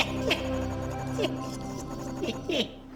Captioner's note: laughing